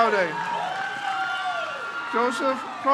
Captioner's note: crowd cheers